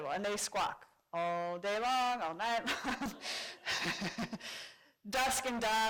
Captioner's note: laughs